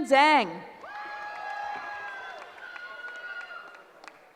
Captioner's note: cheering